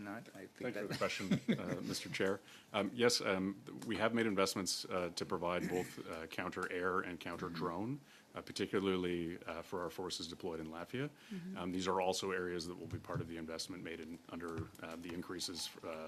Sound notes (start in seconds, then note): 5.6 laughter